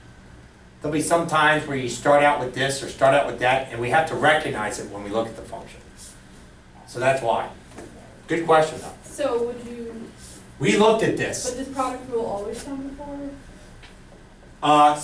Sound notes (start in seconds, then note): 9.7 voiceover; 11.9 voiceover